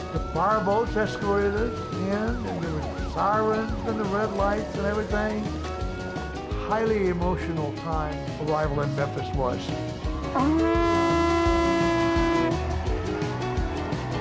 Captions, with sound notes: The fire boats escorted us and there was sirens and the red lights and everything. Highly emotional time arrival in Memphis was. (horn blowing)